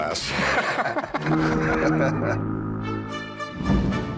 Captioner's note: laughter